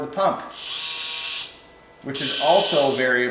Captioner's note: lever whirs loudly